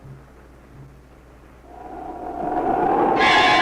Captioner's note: wind blowing eerily; suspenseful music